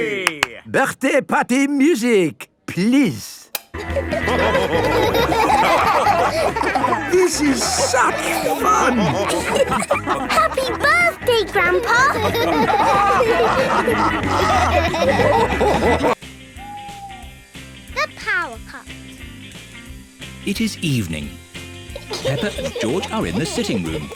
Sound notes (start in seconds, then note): 0.1 claps; 3.8 dance party music; 9.4 laughing; 13.3 all laughing